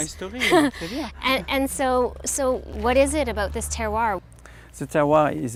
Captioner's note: laughing